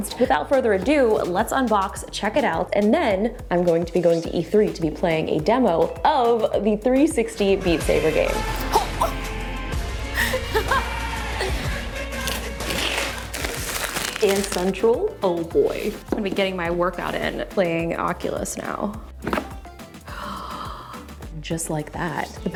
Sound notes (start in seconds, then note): 9.0 gasps; 20.0 gasps